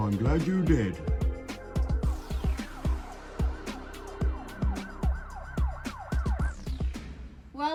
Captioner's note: exciting synth music; police sirens; exciting synth music